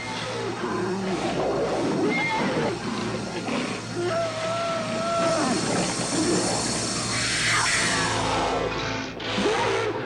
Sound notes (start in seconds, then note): 0.1 Mountain lion growls Gitano bellows; 6.9 mountain lion screams